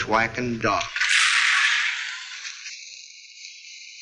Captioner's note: gun bangs